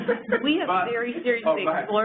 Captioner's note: laughter